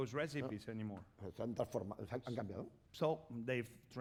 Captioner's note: speaking spanish